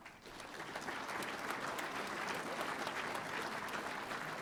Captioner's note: audience applauding